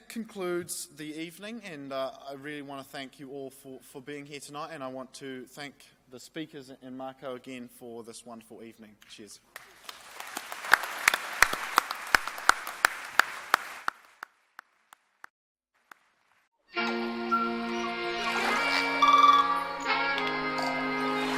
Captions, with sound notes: That concludes the evening. I really wanna thank you all for being here tonight. I want to thank the speakers and Marko, again, for this wonderful evening. Cheers. (applause) (whimsical music and animal sounds)